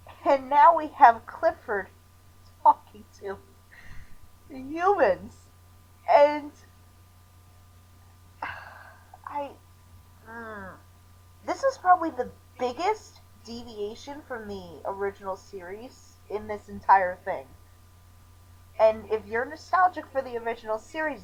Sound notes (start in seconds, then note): 8.4 sighs